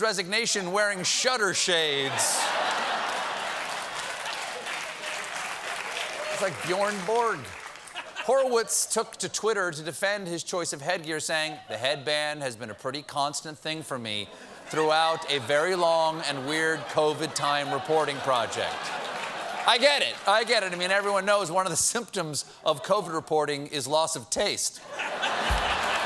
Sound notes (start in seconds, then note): 4.7 applause; 4.7 laughter; 24.8 laughter; 25.2 cheers and applause